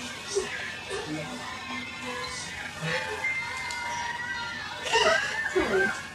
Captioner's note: faint chattering; sobbing